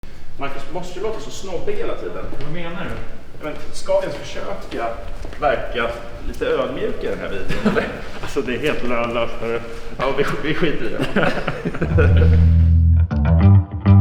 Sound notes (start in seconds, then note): 9.8 laughs